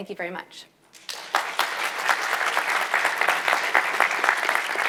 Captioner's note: audience applauds